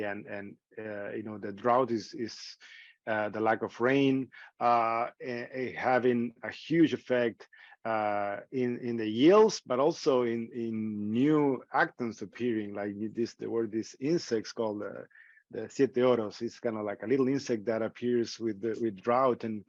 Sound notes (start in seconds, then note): 15.3 speaking in foreign language